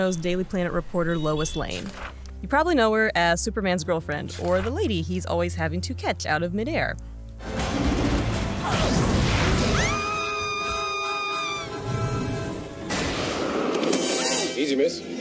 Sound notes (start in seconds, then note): 7.0 dramatic music; 9.6 Lois Lane screams; 12.1 dramatic music